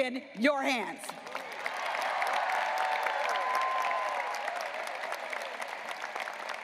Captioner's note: graduates applauding and cheering